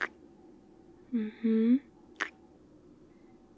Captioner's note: kiss; kiss